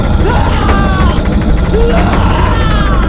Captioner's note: Naira screaming